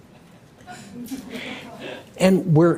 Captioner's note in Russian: Смех